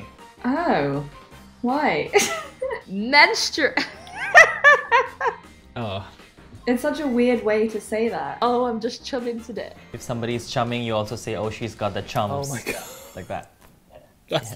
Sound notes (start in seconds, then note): 3.8 laughing; 3.8 laughs